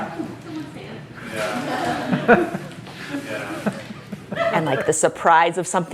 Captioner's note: background noise of chuckles and chatting